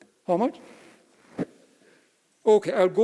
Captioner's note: speaking off mic